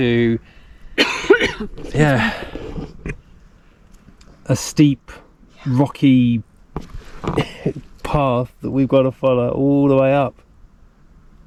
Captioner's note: coughs